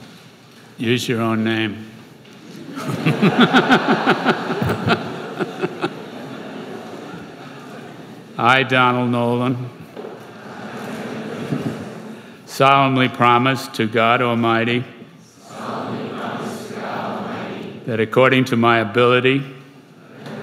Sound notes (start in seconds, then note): 2.6 laughter; 15.0 crowd; 19.6 crowd